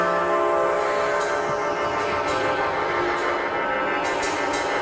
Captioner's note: raspy Voice